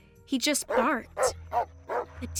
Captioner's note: casey barking